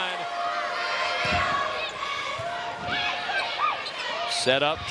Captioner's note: audience cheering and shouting